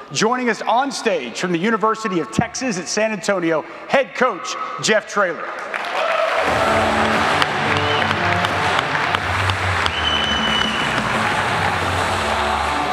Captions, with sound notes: Joining us on stage from the University of Texas at San Antonio Head coach Jeff Trailer. (audience applauding) (upbeat music)